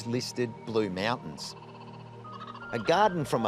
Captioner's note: kookaburra laughs